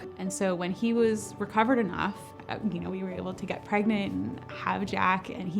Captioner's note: none